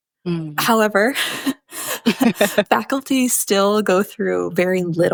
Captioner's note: chuckles